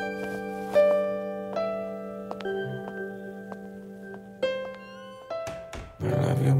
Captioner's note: Footsteps